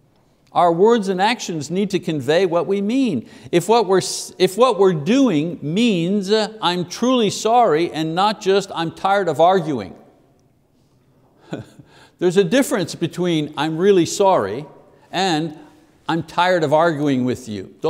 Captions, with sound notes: Our words and actions need to convey what we mean. If what we're doing means, "I'm truly sorry," and not just, "I'm tired of arguing." (chuckles) There's a difference between, "I'm really sorry," and "I'm tired of arguing with you."